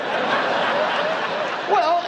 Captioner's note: laughing